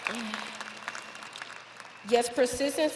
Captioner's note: audience applauding